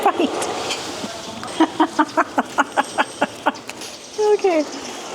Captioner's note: laughter